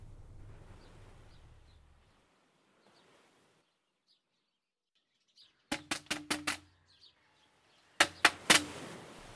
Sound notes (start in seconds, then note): 5.9 Knock on the door